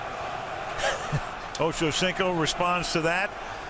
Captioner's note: laughs